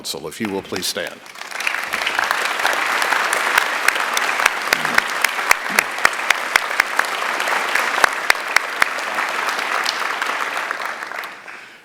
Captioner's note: applause